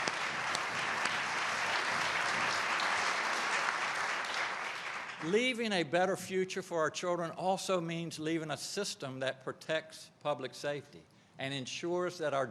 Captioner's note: applause